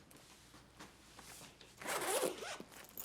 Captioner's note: unzips